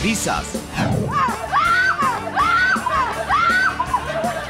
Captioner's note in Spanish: Gritos